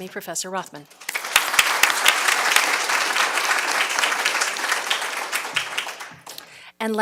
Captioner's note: applause